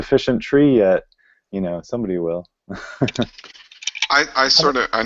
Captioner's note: chuckles